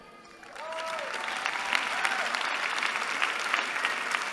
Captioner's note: applause